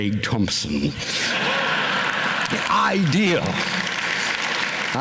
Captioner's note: laughter, applause